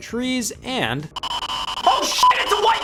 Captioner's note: beep; distorted noise